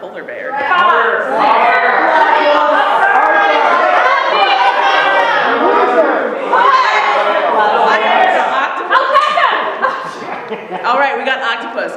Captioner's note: audience shouts suggestions